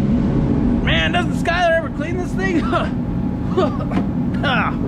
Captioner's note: coughs